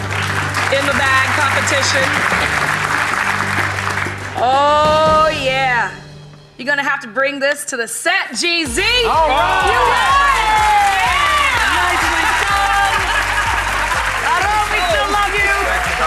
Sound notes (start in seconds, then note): 0.0 audience applauds; 9.0 audience applauds